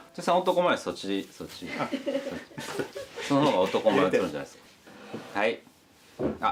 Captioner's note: laugh